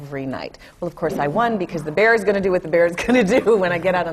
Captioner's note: laughs